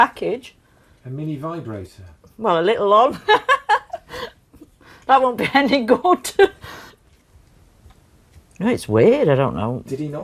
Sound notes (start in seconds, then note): 1.3 voiceover; 3.2 laughs; 10.1 voiceover